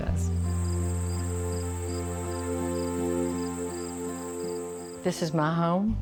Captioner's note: crickets chirping